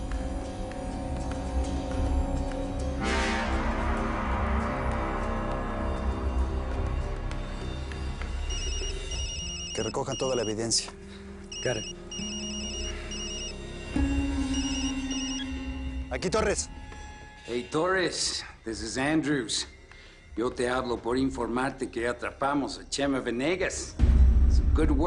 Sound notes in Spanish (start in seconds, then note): 8.4 Suena el celular